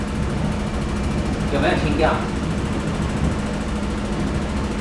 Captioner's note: speaking in Mandarin